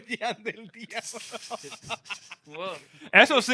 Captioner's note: laughing